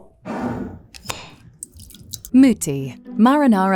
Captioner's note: jar scraping; jar cap clacking; sauce sloshing